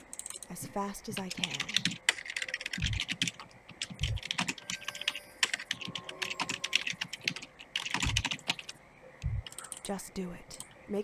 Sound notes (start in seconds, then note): 1.1 typing sounds